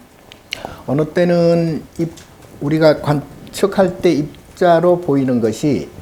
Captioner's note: speaking Korean